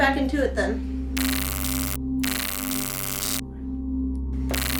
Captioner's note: taser zapping